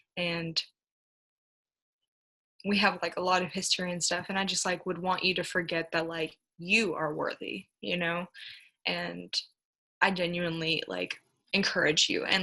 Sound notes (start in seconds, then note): none